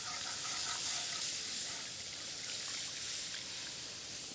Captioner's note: sizzling